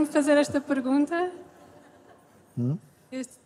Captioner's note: laughter